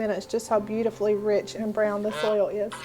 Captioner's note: goose honking